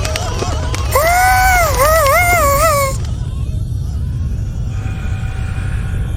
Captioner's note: frightened scream